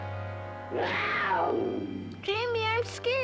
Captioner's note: snarling